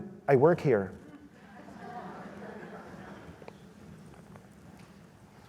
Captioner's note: audience laughs